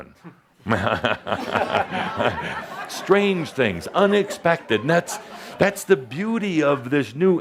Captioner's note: Adamus chuckles and audiences laughs